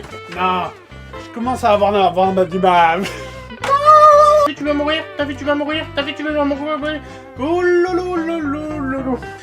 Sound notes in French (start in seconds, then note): 3.0 rires étouffés; 3.6 cri aigu